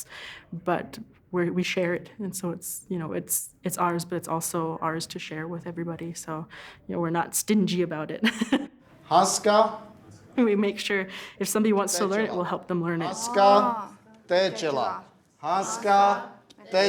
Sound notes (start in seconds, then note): 8.5 speaking Lakota; 13.2 speaking Lakota